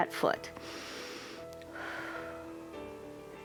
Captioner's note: inhales and exhales